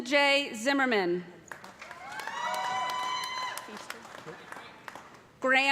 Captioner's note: cheers and applause